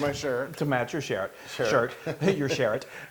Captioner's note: laugh